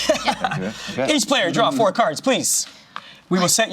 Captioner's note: laughs